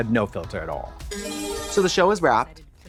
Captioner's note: bright chime